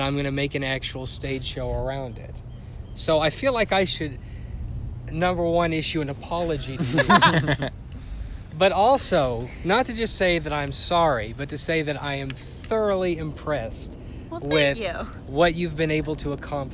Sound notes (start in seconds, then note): 6.7 laughter